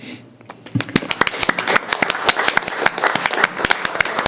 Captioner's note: applauding